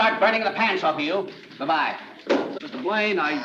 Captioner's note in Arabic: صوت ارتطام الهاتف; رنين جهاز الاتصال الداخلي